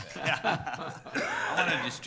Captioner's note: people laughing